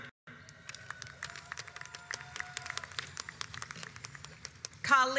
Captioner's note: audience applauds